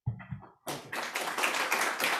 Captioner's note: applause